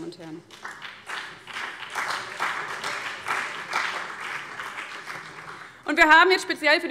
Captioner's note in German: Beifall CDU und BÜNDNIS 90/DIE GRÜNEN